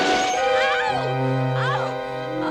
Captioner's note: metal clanking